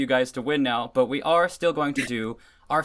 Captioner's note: chuckle